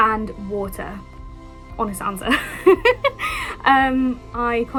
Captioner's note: laughing